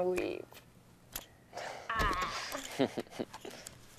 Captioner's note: laughing